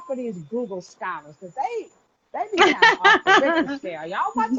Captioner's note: laughing